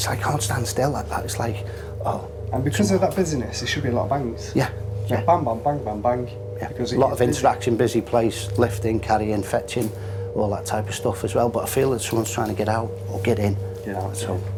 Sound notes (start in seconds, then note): none